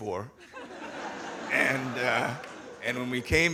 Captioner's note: audience laughing